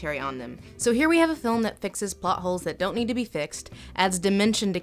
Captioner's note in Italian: voce fuori campo